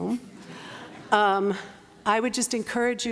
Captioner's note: laughter